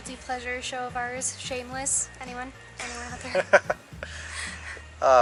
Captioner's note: laughs